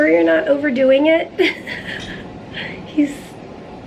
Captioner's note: chuckles